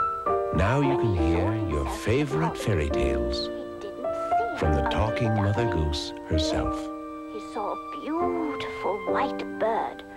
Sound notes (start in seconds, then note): 3.5 Talking Mother Goose continues telling story in background